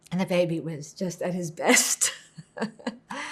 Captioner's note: laughing